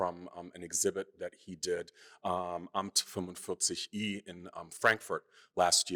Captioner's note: speaking german